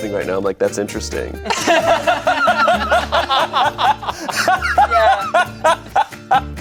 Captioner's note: group laughs